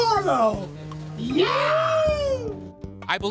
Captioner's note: man whooping